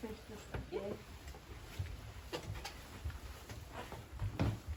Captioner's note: soft rustling